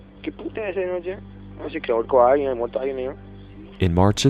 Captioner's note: group talking